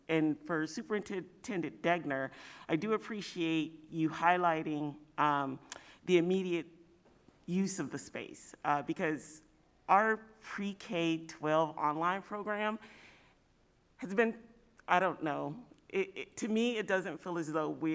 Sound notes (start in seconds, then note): none